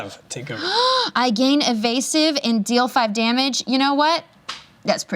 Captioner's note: gasps